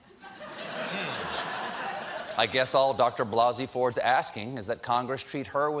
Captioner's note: laughter